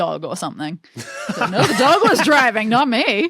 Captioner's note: laugh